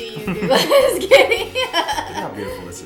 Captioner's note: laughing